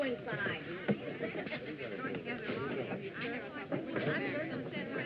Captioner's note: chatter